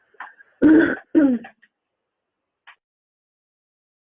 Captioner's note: clears throat